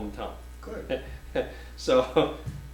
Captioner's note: offscreen Voice